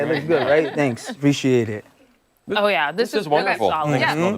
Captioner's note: laughter